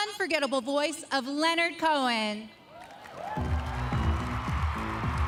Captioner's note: speaking French